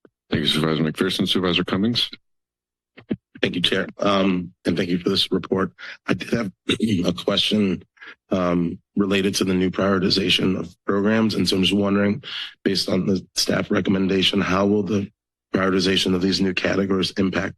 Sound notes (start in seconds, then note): 5.7 clears throat